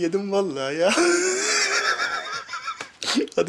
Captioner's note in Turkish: Gülme sesi